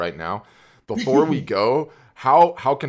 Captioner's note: laughs